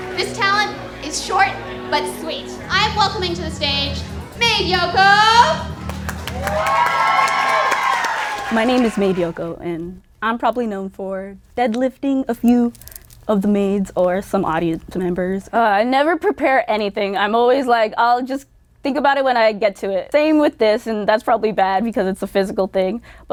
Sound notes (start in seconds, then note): 5.6 cheering